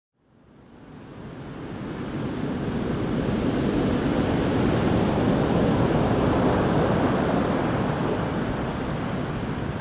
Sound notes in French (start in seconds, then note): 0.5 Bruit de vagues